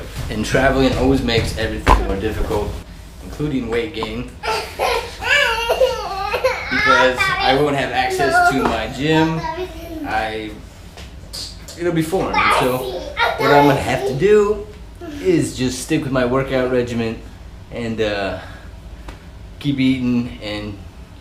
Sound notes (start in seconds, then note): 4.3 is giggling